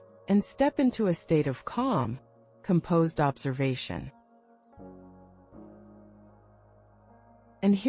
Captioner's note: pause